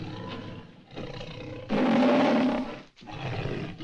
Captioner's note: roars